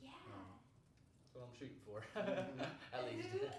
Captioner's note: laughing